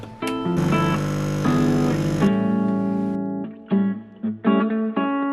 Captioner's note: machine whirring; lively music